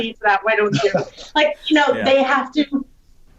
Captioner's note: laughs